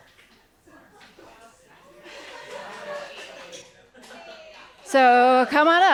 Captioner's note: cheering and laughter